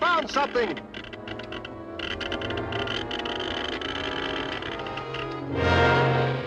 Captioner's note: machine crackling; suspenseful music; ominous music